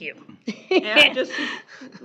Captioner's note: chuckles